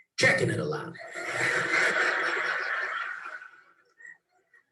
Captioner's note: laughs